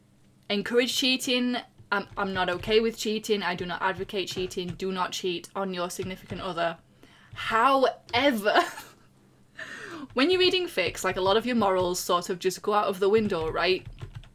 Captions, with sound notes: encourage cheating, I'm not okay with cheating, I do not advocate cheating. Do not cheat on your significant other However [laughs] when you're reading fics, like a lot of your morals sort of just go out of the window, right?